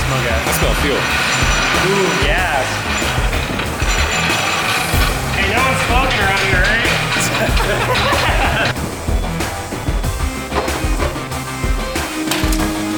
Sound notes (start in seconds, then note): 7.3 laughter; 9.3 upbeat music